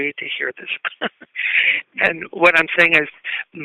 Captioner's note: chuckle